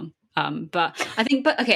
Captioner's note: laughs